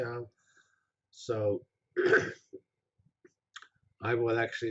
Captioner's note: pause